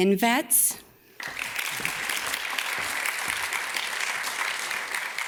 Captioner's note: audience claps